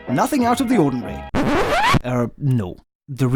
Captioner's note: record scratch sound